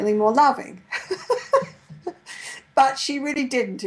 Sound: laughs

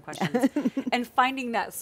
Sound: laughing

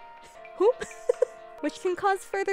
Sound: giggles

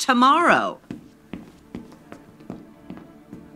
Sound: hastened footsteps

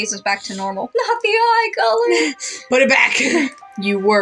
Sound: chuckle

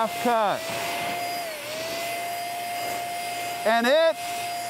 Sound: spray gun buzzing

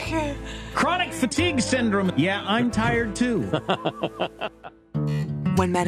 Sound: laughs

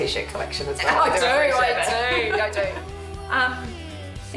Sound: laughs

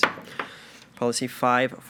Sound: gavel knocks

